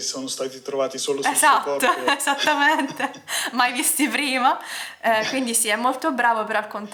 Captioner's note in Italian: risate